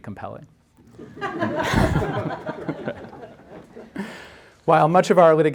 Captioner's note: audience laughing